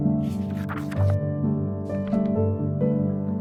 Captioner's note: crinkle of paper